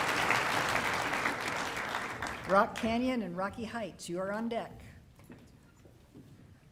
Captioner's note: applause